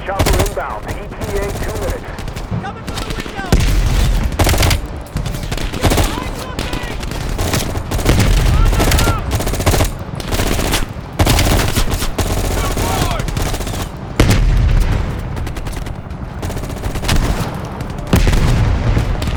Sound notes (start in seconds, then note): 4.5 gun fires; 6.2 speaking in foreign language; 16.2 gun fires